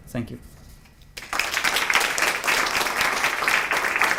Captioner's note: applause